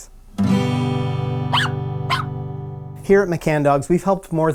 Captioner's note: guitar strumming; dog barking